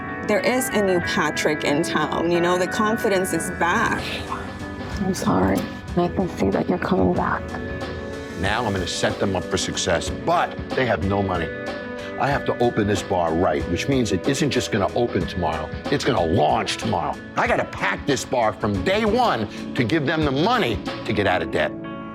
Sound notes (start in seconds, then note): 4.3 sniffs